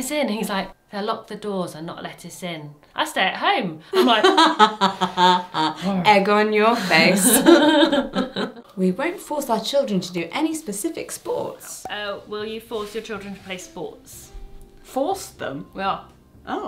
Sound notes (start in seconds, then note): 4.3 sighs